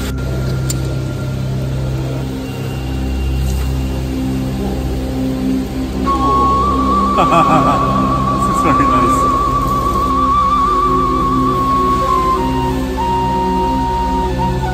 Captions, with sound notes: (laughing) This is very nice.